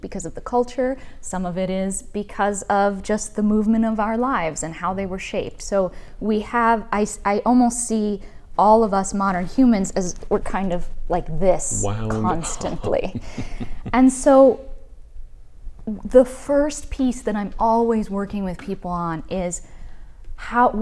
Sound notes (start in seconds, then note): 11.7 laughs